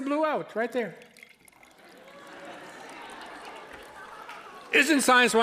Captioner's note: liquid dripping, audience laughing